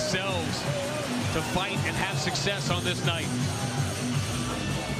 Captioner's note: cheers and applause